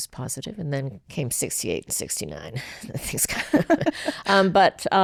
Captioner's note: laughs